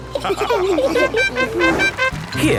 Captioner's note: all laughing; horn tooting